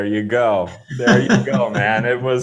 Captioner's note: laughing